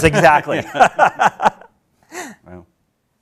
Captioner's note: chuckling